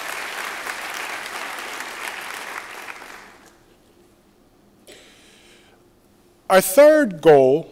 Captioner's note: applause